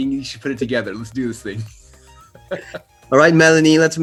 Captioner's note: laughs